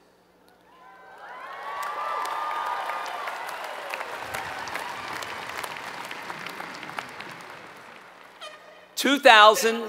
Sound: applause

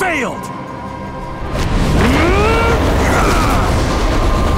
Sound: grunting

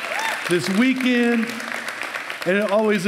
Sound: applause

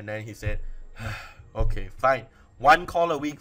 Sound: sigh

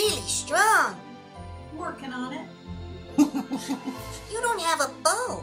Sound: laughs

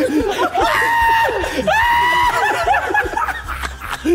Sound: Ethan screaming

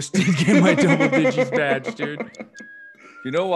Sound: laugh

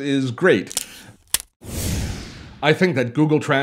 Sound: snapping

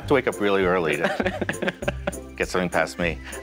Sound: laughs

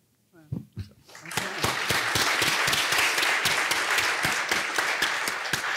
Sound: applause

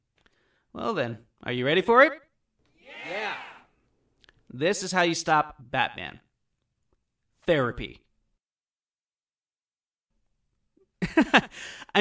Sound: silence

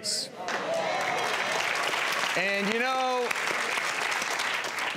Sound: applause

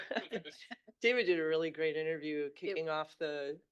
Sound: laughing

